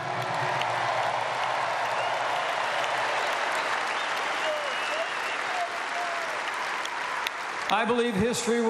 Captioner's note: applause